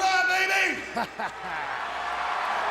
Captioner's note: Shawn laughs; audience cheers